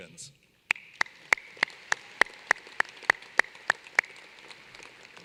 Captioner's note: applause